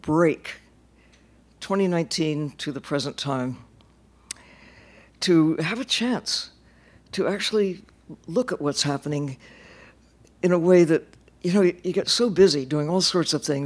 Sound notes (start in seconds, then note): none